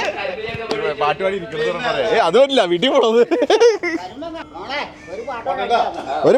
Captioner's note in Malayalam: പൊട്ടിച്ചിരി